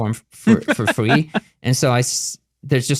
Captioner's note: laughing